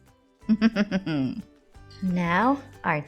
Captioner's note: laughing; chuckling